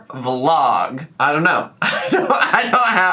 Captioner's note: laughs